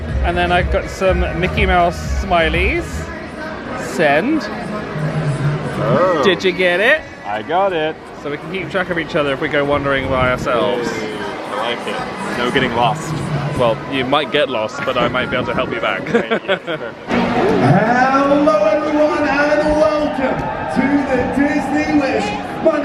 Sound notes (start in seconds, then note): 16.0 laughs